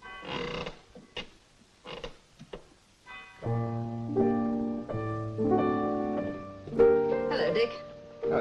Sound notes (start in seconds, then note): 0.0 piano bench squeaks; 3.1 gentle piano music